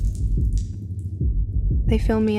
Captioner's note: water drips end